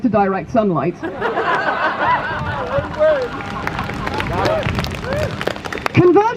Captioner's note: crowd Laughs